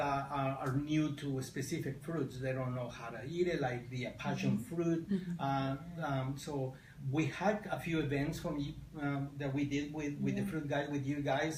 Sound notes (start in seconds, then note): none